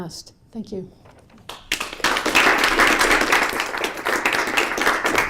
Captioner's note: applause